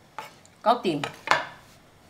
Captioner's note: Cantonese